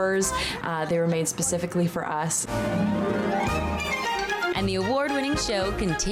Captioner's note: speaking over performance